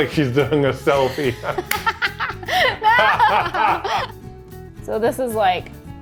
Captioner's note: both laughing